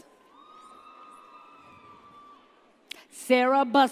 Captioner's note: audience cheers